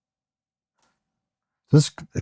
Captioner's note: silence